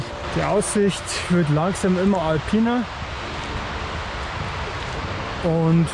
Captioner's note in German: Wasserrauschen